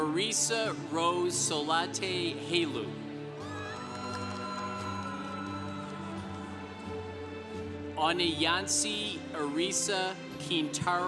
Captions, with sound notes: Maresa Rose Solate Helu. (congregation cheering) Anayansi Irisa Quintero Miranda.